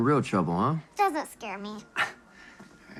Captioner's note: chuckles